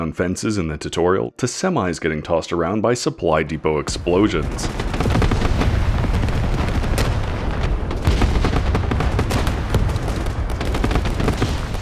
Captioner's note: explosion